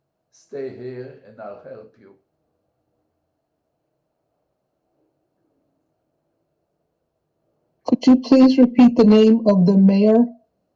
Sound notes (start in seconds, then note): 3.2 pauses 6 seconds